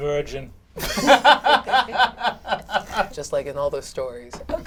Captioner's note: all laugh